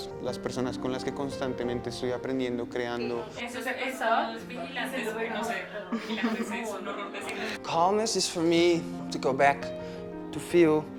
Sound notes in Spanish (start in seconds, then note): 5.9 risas